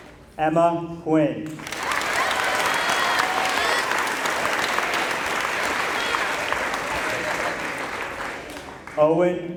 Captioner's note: applause